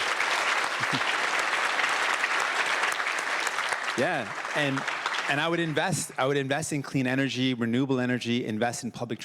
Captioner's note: cheers and Applause